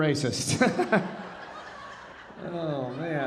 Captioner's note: audience laughing; laughing